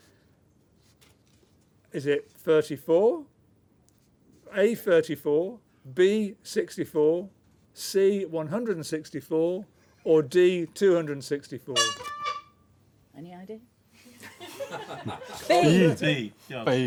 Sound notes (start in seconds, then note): 11.7 honk; 14.0 laughter